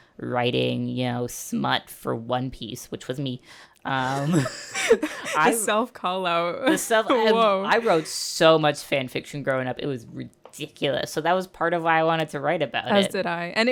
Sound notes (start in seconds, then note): 4.1 laughter